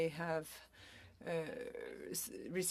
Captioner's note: speaking French